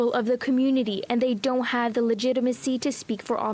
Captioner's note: speaking French